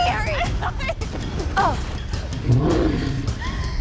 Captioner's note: grunts; growls